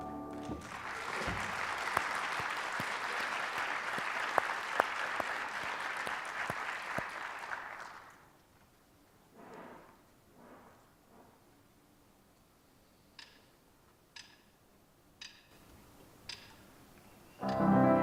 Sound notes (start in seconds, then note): 0.3 applause